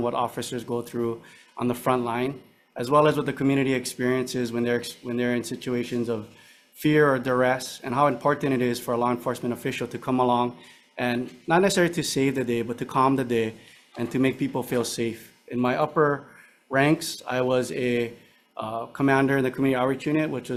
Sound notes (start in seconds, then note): none